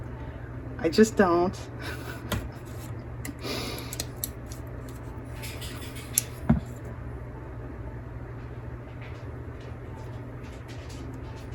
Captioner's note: laughs